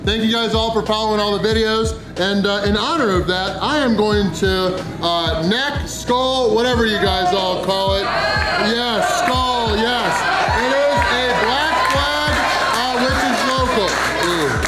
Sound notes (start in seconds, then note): 6.6 crowd